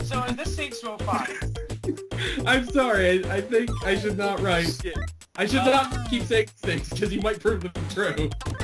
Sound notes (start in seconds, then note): 1.1 giggling